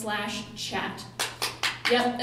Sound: clapping

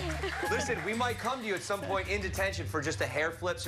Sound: cheers and applause

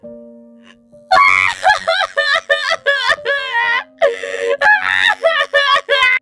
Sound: intense Sobbing

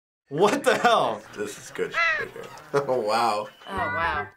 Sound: bird caw

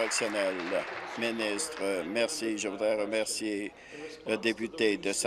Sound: applause

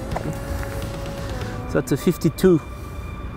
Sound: mówi po francusku

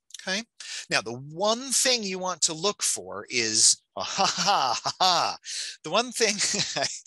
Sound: laughs

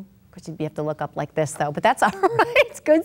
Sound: laughs

